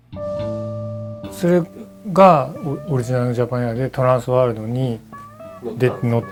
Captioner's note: speaking in foreign language